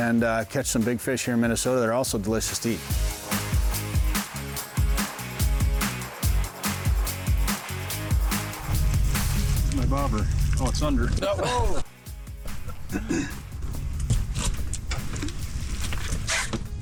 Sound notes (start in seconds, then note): 3.3 upbeat music continues; 11.2 laughs